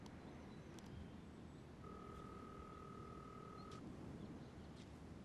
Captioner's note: line ringing